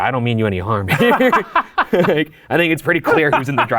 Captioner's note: both laughing